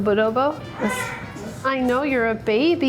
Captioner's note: baby coos